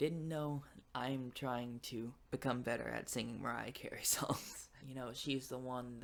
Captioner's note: laughs